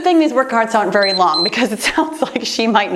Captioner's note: timer beeps